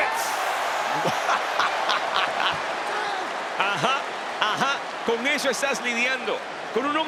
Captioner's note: laugh